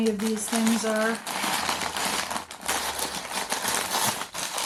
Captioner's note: bag rustling